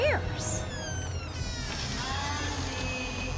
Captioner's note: door squeeks